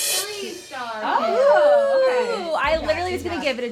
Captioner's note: cheering